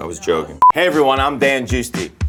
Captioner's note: note beeps